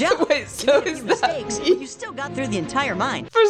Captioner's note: laughing